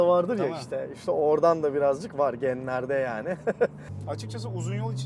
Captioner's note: laughings